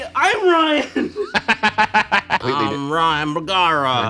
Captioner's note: laughing